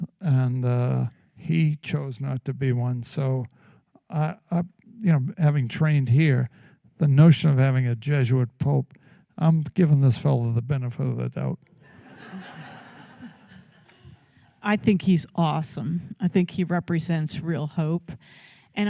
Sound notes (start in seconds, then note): 11.8 laughter